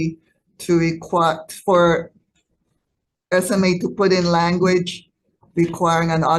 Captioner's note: stammering